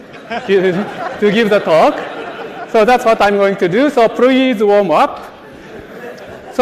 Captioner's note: laughter